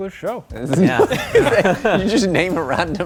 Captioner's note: laughing